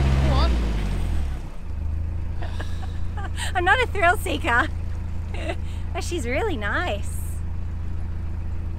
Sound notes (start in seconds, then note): 1.4 engine revs calm down